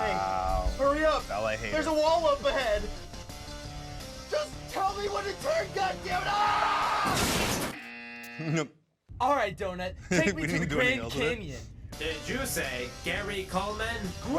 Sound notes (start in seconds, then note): 6.1 screams; 7.0 car crashes; 7.7 buzzer buzzes; 8.1 laughs